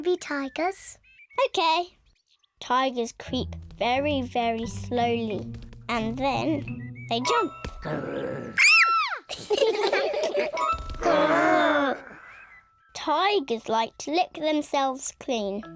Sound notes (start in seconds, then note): 7.8 kids shout; 7.8 growls; 9.3 all laughing; 10.5 all growling